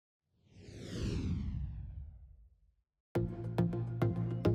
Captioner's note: logo whooshing; gentle music